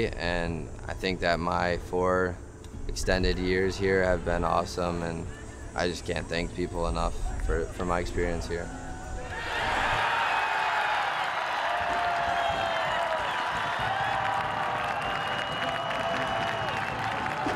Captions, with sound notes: And I think that my four extended years here have been awesome, and I just can't thank people enough for my experience here. (crowd cheering)